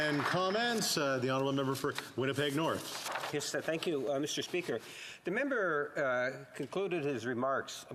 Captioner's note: some Applause